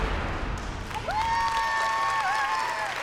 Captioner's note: whooping, applause